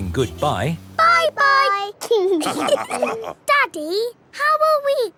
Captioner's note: all laughing